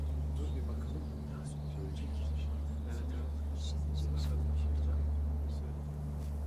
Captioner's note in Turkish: Ortam Sesi